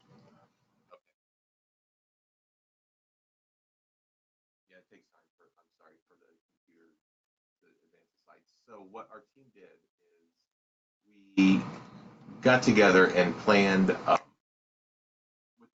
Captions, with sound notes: [Audio has cut out briefly.] So what our team did, we got together and planned [audio cuts out again]